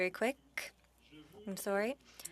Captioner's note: speaking French